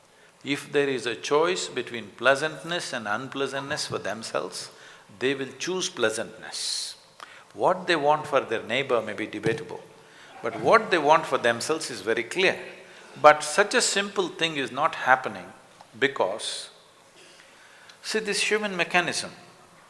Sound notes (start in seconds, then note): 10.2 few laughs